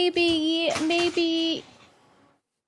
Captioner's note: wand clatters